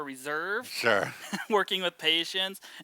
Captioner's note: laughs